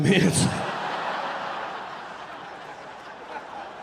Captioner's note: audience laughing